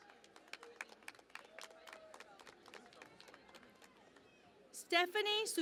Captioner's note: cheering and Applause